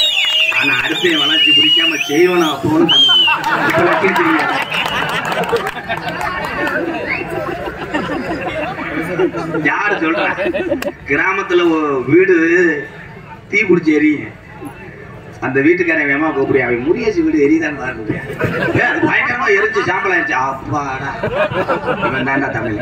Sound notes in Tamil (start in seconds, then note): 7.0 சிரிப்பு